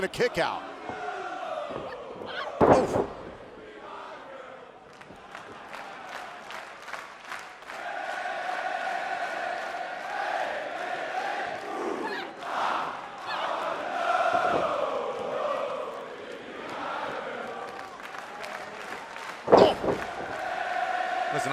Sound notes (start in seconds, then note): 6.8 clapping; 7.7 fans chanting